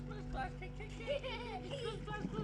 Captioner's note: child laughing